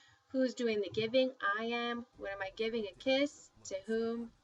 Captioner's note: spanish